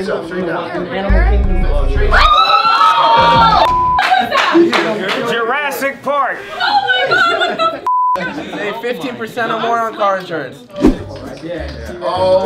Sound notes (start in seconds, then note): 2.1 screams; 3.6 beep; 7.8 beep